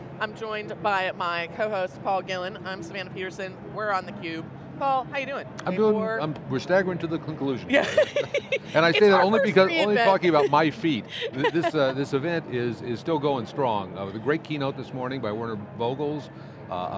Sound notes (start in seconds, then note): 7.7 laughing